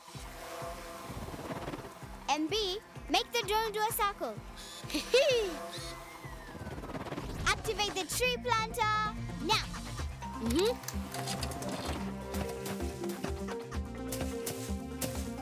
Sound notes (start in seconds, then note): 0.0 drone buzzing; 4.8 whirring; 8.8 drone buzzing; 10.4 clicking; 11.9 rhythmic music